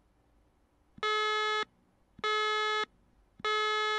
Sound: alarm

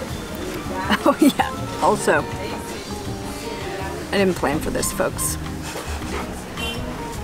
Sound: laughing

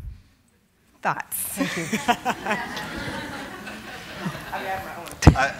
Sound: audience laughing

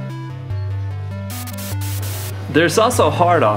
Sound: static

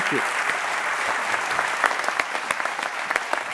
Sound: applause

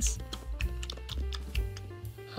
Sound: rabbit chewing

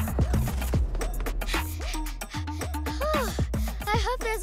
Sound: panting

